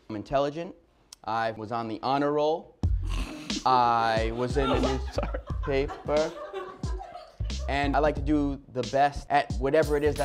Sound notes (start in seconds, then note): 4.0 laugh